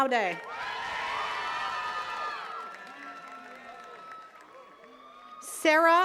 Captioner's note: attendees cheering and clapping